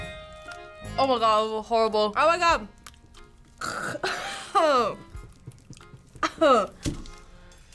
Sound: gags

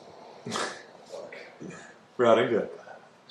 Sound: chuckles

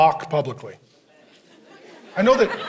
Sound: congregation laughing

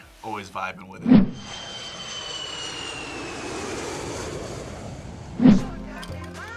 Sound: airplane engine roars; upbeat music

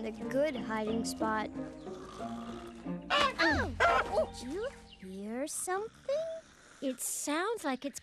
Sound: snoring

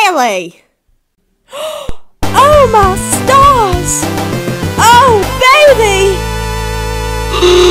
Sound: gasp!

